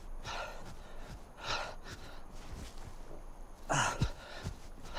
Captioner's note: panting and grunting